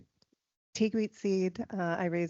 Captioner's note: speaking in foreign language